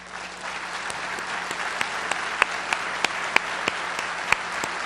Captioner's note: applause